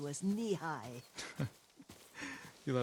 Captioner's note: laugh